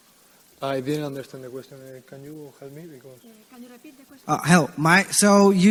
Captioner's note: hushed whispering